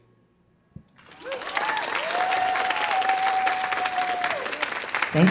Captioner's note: audience clapping